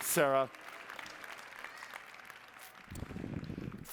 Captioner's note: applause